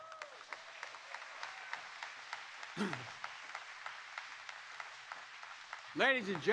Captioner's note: applause